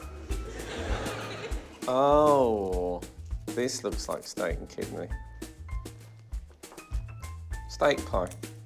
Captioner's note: laughter